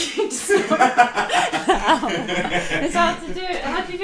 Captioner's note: both laughing